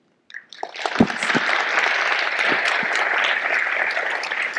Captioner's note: audience applauding